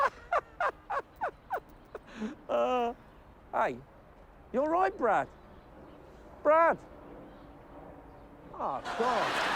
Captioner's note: laughs